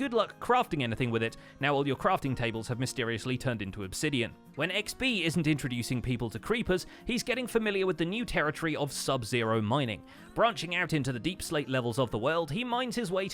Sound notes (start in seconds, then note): none